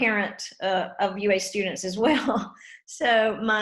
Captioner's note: laughs